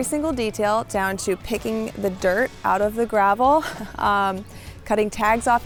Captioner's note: chuckles